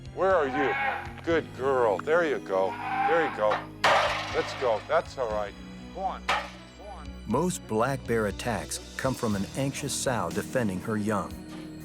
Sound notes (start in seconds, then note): 3.4 ladder banging